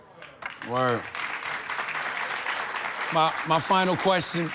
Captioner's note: audience clapping